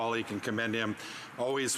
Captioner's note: speaking French